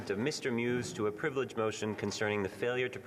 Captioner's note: speaking French